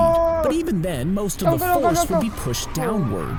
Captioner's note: exclaiming